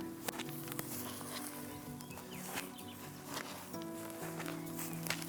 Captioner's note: grass crunching